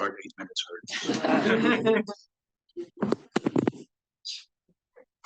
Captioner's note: audience laughing